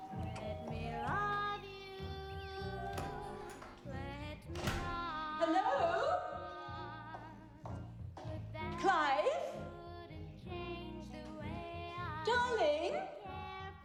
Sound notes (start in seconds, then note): 4.4 door opens and closes